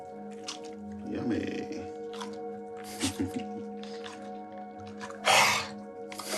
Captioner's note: chuckles